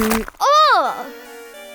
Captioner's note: splat